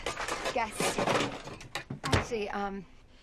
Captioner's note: cans rattling